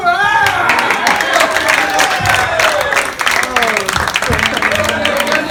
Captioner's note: applause